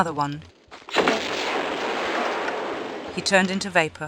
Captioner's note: big badaboom